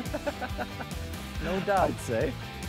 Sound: laughs; upbeat instrumental music

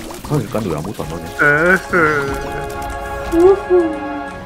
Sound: crying sound

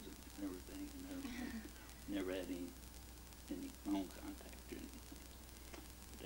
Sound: chuckles

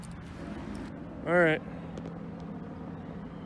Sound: helicopter hovering overhead

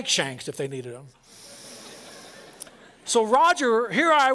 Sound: laughter

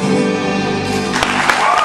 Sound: audience applauds

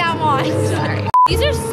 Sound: beep

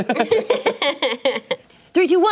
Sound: laughing

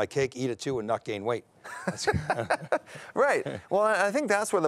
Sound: laughing

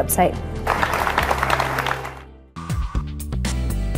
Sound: audience clapping

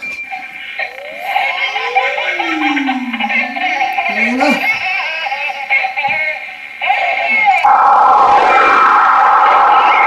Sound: sound of baby laughing on baby monitor

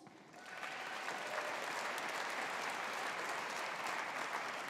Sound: audience applauding

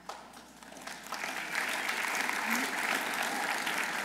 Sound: audience applauding

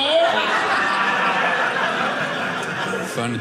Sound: audience laughing

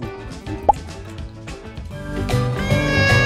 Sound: licking lips in sync

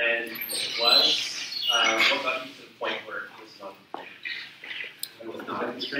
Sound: speaks away from mic

